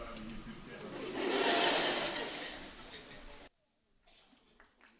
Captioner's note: laughter; applause